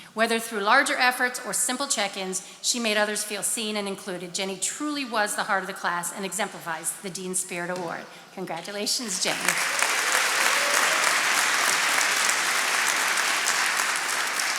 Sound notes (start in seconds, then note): 9.0 attendees applauding